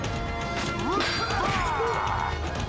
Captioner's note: metal clanging; roaring